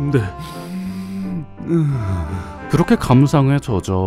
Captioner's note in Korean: 스으으읍